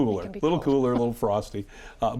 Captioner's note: chuckles